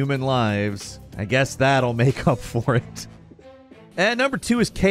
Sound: laughs

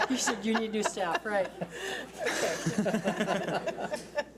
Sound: laughs

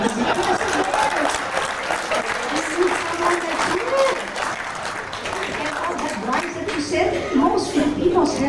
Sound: Palakpakan

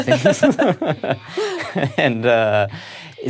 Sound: laughs

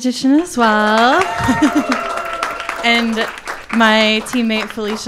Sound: people clapping and cheering

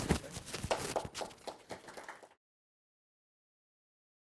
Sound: audience applauding

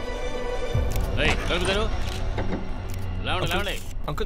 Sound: door opens; cameras flashing

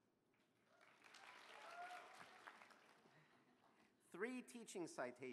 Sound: applause

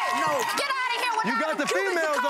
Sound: continues to yell

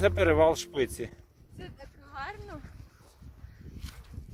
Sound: excited

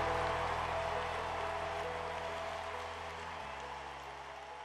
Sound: crowd applause in background

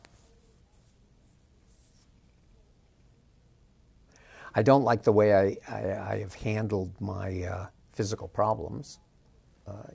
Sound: pause

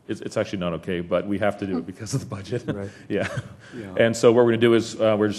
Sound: laugh

